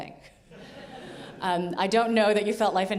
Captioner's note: audience laughing